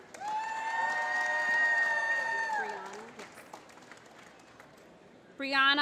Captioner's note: applause